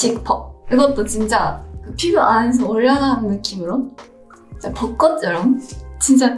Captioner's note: gentle music continues; foreign language continues